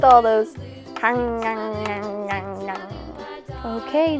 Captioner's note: biting